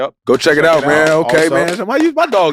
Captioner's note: applause